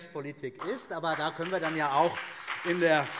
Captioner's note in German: Beifall CDU und BÜNDNIS 90/DIE GRÜNEN